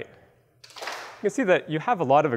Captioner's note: claps